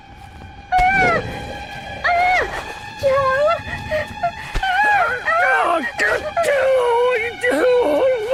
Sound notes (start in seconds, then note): 0.6 Barbra yelping; 1.8 Joe growling; 3.0 Barbra whimpering